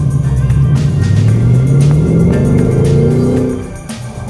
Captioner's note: revving